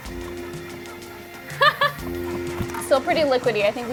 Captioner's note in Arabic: تضحك